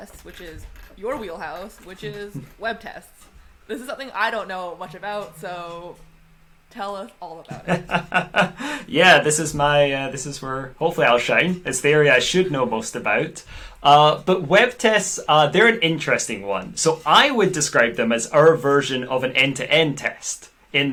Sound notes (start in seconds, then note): 7.2 laughs